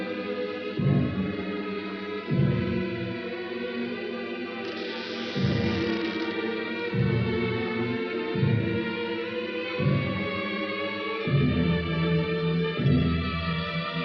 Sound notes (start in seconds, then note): 4.6 window closes and creaks; 9.1 suspenseful music